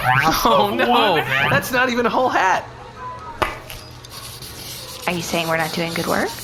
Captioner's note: scribbling on her clipboard